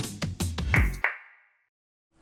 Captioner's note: clap clap